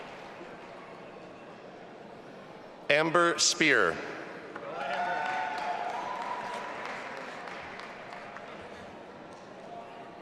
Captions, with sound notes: Amber Speir. (audience applauding and cheering)